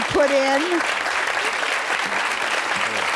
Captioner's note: cheering